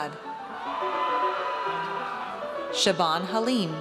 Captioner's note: audience cheers